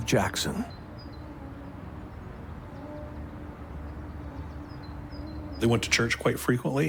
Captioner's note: eerie music; birds chirping